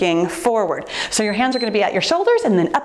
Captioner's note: timer beeps